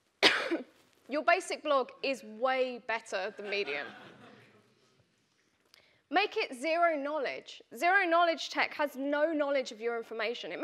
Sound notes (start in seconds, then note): 3.4 audience laughing